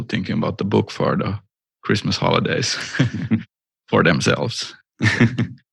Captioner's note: laughter